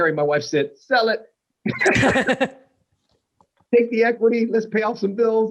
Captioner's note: laughter